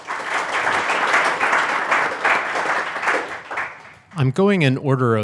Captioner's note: audience applauds